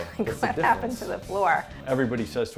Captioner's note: laughs